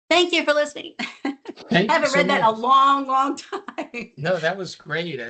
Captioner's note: laughs